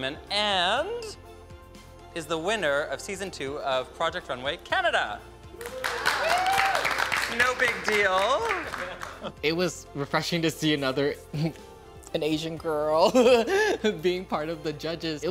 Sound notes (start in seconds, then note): 5.5 all cheering and applauding; 11.5 chuckles